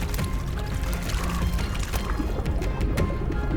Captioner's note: water sloshes; ominous music